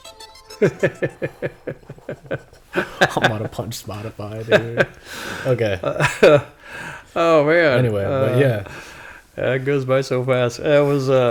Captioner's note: laughter